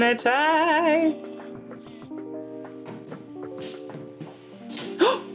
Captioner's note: camera lens whirring